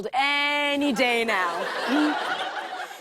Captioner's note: laughter